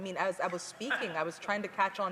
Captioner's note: none